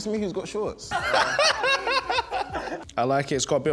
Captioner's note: laughs